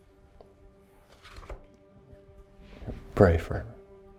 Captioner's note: notebook rustling